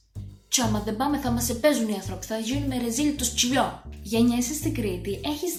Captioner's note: in cretan accent